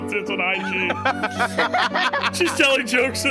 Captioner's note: laugh